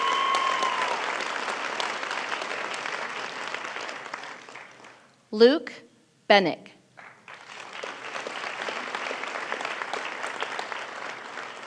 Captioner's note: applause